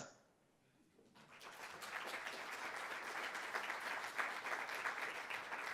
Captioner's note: applause